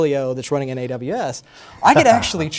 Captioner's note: laughter